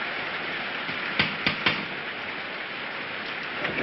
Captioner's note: knocks on door